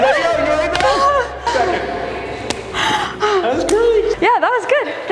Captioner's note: breathes heavily